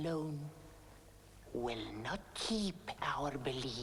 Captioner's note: none